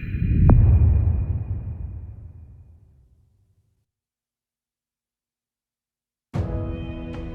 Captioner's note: dramatic sound